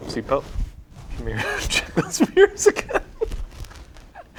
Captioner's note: laughing